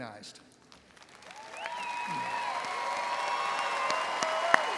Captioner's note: audience cheering